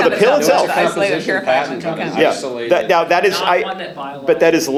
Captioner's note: audience talking